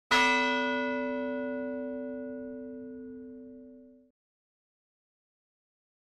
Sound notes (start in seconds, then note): 0.0 bell rings